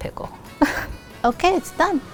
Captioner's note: laughing